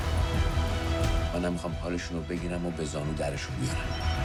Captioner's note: man in Farsi